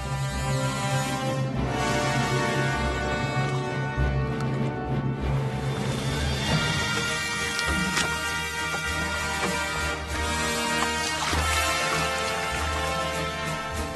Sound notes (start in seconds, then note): 0.0 music brass; 0.0 music fanfare; 5.0 water splashing; 6.8 wood knocking; 11.3 water splashing